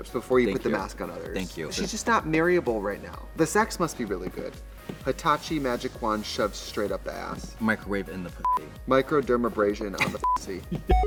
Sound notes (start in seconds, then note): 8.4 beep; 10.9 beep